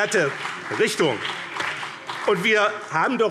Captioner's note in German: Beifall BÜNDNIS 90/DIE GRÜNEN und CDU